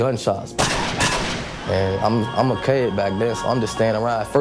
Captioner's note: gunshots firing